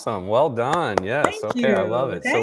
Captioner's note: clapping